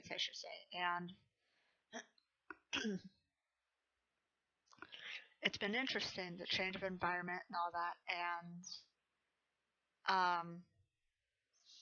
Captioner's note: clears throat